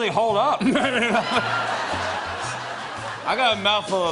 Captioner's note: laughter